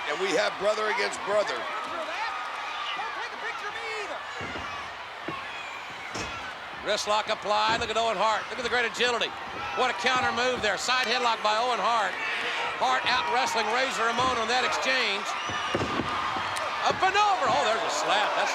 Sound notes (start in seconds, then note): 15.5 spectators cheering